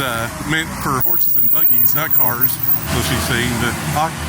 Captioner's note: car breaks squealing